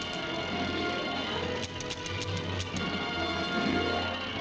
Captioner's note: gun clicking